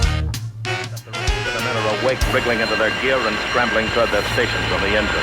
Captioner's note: radio voice; sirens wail